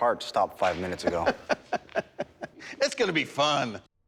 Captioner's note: laughter